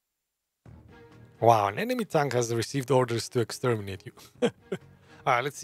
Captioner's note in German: Lacht